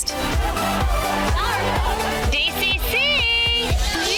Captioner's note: upbeat music; women cheering